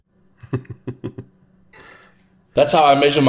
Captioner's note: chuckles